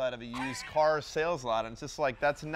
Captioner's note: laughs